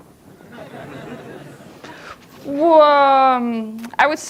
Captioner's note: audience laughs